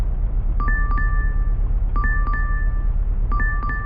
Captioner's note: phone chimes